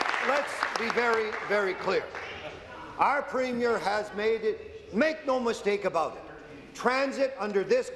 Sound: applause

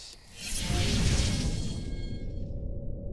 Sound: whooshing

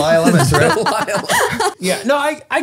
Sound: all laughing

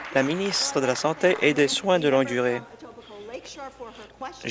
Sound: applause

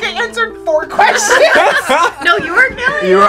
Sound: all laugh

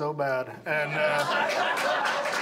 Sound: audience laughs

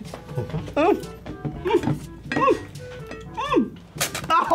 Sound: grunting; bottle squirts

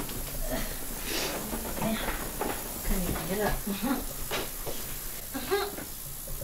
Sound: shop ambient sound; laughs; happy Noises; shop ambient sound

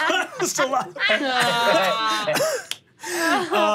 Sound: laughing

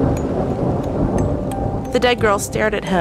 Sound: thunder rumbling

